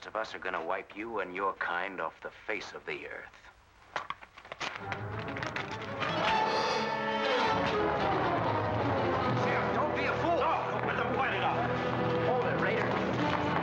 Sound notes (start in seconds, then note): 4.4 paper tearing; 4.5 ominous music; 6.4 smack